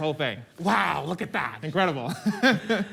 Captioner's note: laughs